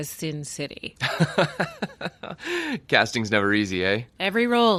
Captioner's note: laughs